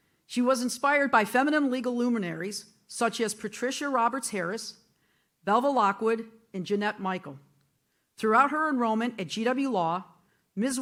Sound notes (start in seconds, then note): none